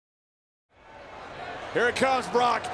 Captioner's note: crowd murmuring